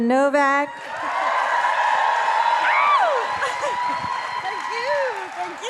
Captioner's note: audience cheering and applauding